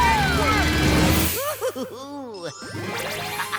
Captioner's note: giggling